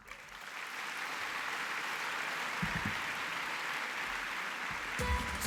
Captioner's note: applause